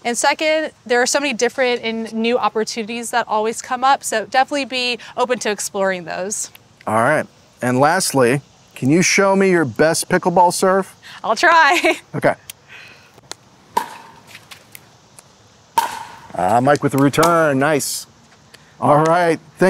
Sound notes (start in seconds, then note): 13.6 popping sounds of pickleball on paddles